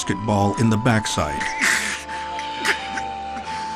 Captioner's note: grunting